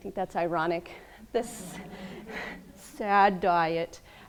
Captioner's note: laughing